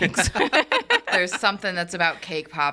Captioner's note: all laughing